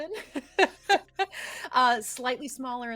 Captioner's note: everyone laughs